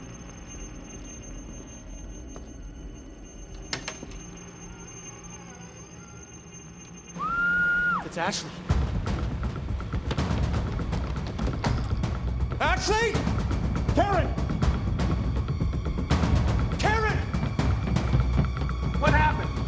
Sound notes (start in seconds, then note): 7.2 scream